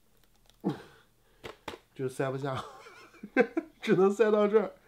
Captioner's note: laughs embarrassingly